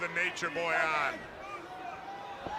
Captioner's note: crowd chatter